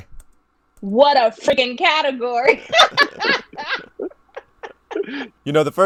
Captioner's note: laughing